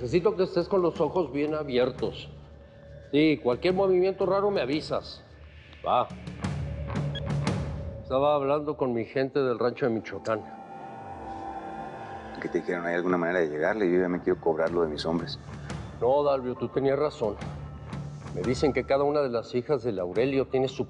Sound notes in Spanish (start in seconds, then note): 7.0 Bip